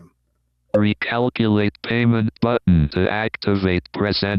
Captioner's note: automated Voice